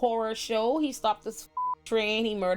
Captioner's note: beep